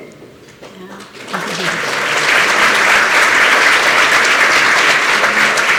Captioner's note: applause